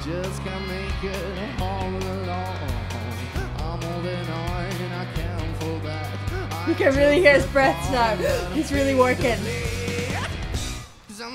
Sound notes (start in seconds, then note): 7.6 gasps